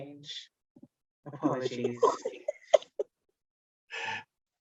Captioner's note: laughter